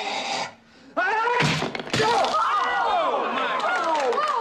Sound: Cliff shouts; crowd cheers

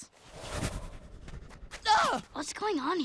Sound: shrieking

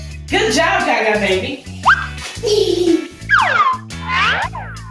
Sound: Gaga Baby laughs

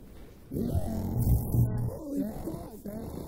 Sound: creature groaning

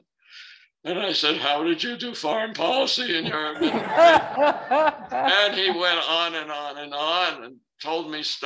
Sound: laughter

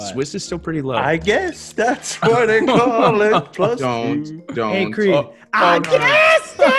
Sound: laugh

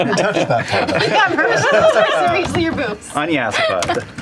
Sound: laughter

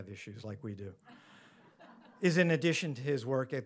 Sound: audience laughs

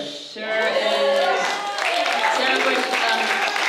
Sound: applause

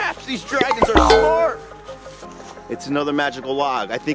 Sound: cowbell clangs

